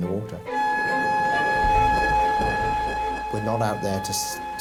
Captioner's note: siren blares